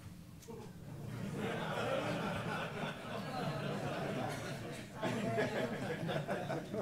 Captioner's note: laughter